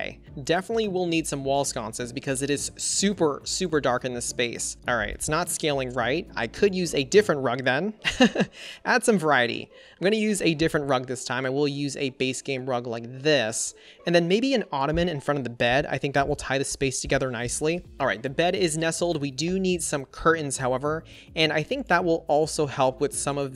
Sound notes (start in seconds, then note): 8.1 laughs